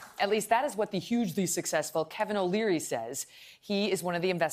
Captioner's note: applause